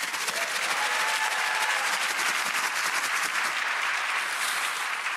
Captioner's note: audience cheering and clapping